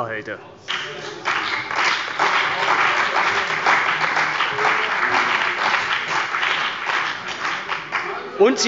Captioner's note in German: Beifall bei der CDU und dem BÜNDNIS 90/DIE GRÜNEN